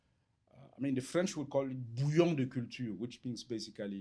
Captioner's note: french